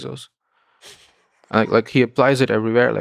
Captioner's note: Lex laughing